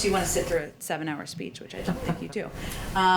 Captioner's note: laughter